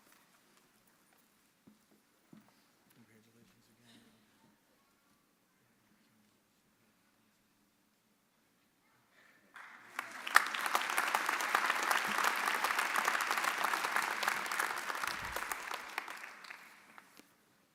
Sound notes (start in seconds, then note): 9.5 audience applauding